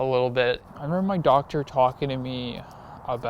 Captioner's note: traffic whoosing